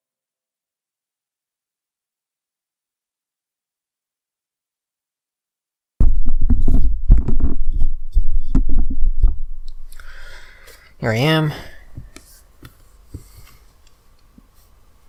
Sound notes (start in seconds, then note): 6.0 rattling sound